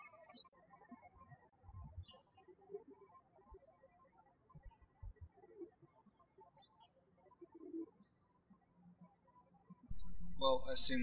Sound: birds chirping

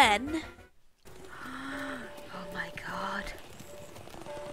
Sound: gasp

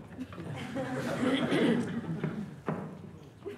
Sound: laughter

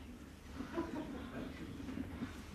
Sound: laughter

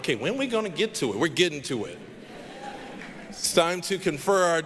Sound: audience laughing

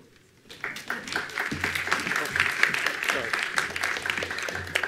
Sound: attendees applauding

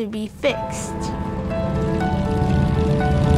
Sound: motorcycle engine noise; piano music

